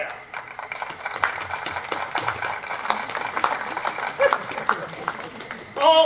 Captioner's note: applause